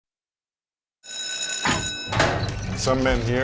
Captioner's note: bell rings